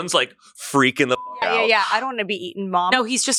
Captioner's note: beep